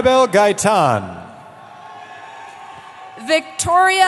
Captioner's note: cheering